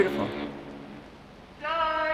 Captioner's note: sound of a ship's horn